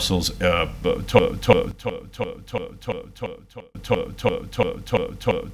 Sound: audio distorting

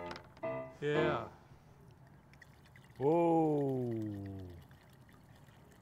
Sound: liquid pouring

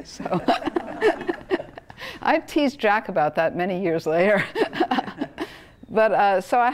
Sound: laugh

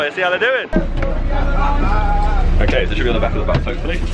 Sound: laughing

